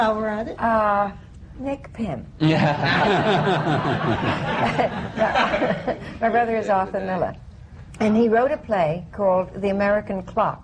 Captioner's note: laughter